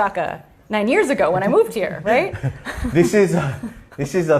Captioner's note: laughter